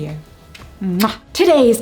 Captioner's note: kiss